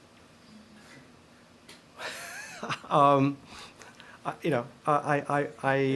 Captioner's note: laughter